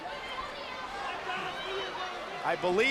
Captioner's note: crowd yelling